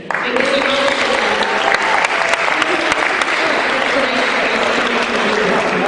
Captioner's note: cheering